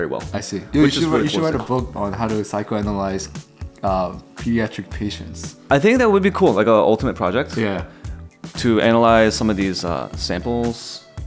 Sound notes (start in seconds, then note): none